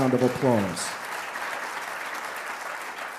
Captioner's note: applause